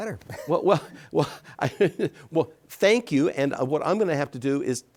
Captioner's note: chuckles